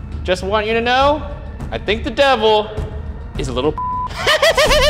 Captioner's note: beep; laughing